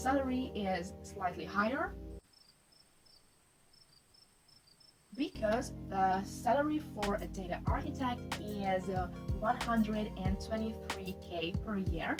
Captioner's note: crickets chirping